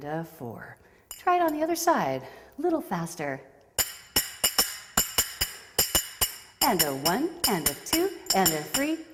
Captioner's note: clacking